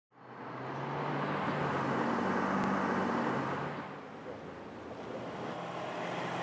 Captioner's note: cars driving